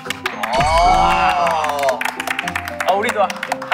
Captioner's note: applaud